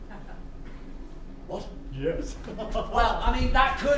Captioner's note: laughs excitedly